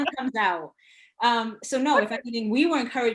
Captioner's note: laughing